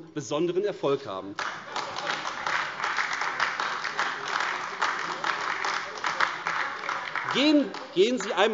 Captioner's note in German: Beifall AfD